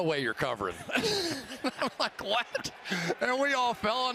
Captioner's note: laughs